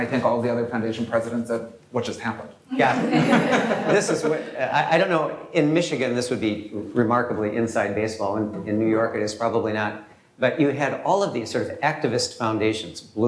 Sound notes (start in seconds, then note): 2.9 laughter